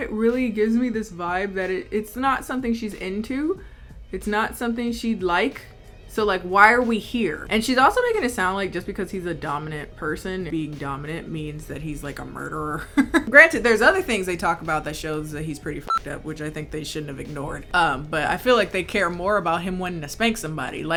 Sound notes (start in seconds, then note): 12.8 chuckling; 15.8 beep